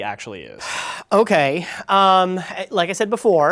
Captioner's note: sighs